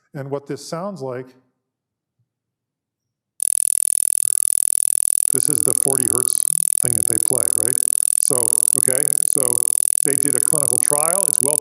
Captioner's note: sound plays at 40 Hz